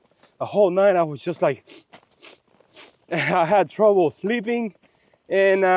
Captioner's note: sniffing, sniffing, sniffing